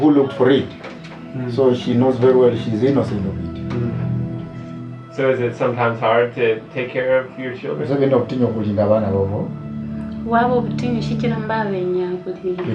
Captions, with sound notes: So is it sometimes hard to take care of your children? (speaking in foreign language)